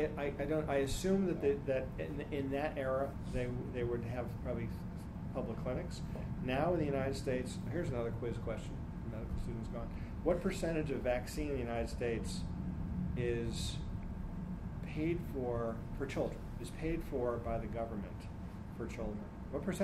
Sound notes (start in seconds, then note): none